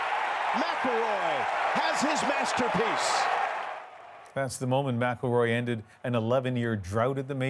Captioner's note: cheers and applause